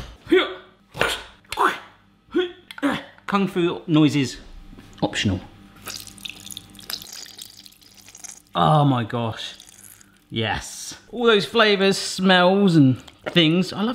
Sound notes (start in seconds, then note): 0.1 grunting; 5.8 juices squirting